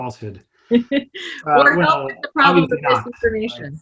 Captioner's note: chuckles